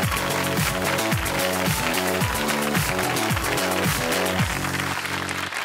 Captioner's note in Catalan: aplaudiments